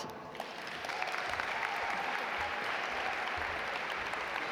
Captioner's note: audience applaud